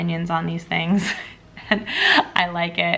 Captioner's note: chuckling